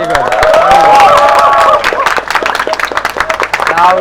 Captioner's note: applauds